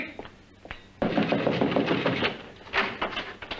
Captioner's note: knocking